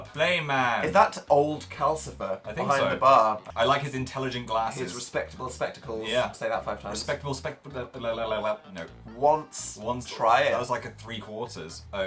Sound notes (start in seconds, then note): none